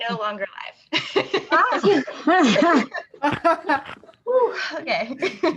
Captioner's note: laughter